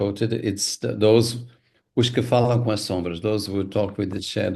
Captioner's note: Mia speaking in Portuguese